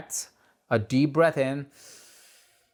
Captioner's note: breathes in